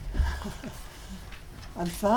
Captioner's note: laughing